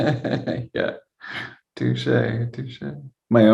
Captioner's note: laughing